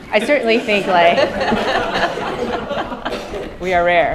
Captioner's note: laughter